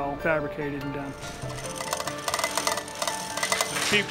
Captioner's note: chains rattling